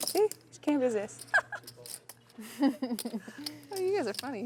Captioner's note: laughing